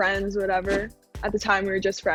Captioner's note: scene whooshing